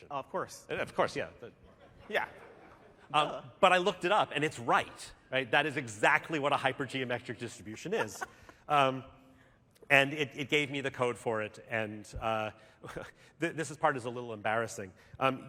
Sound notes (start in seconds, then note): 1.6 laughter